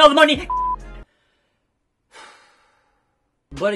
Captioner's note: deep sigh